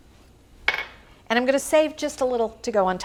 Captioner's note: bowl clinks